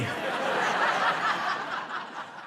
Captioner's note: laughter